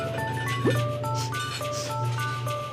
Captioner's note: sniffs